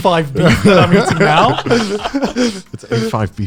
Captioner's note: guys laughing